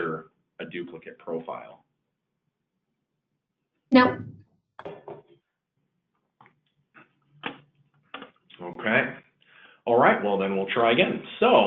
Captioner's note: silence